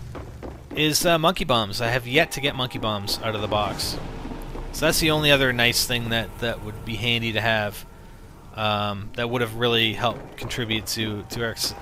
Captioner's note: gunfire sounds